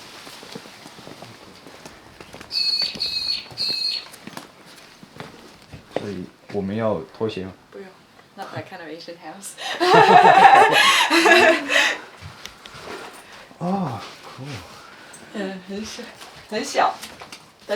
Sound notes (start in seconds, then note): 9.6 laughs